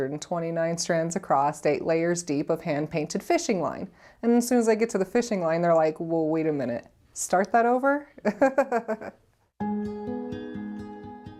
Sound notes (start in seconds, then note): 8.2 laughs; 9.6 soft music